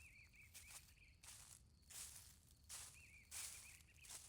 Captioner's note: birds chirping